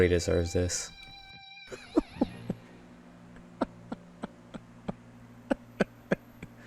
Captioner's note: laughter